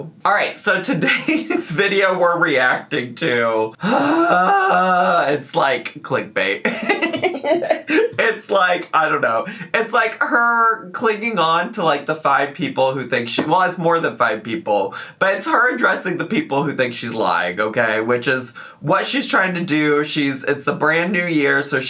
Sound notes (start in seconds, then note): 3.8 gasps; 6.6 giggles